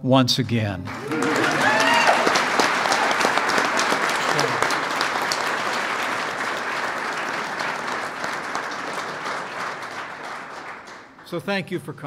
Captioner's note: applause